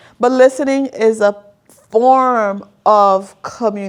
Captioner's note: none